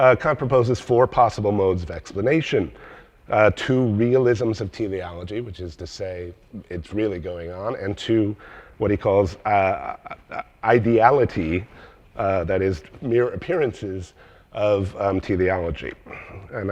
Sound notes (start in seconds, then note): none